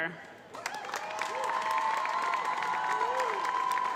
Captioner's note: cheering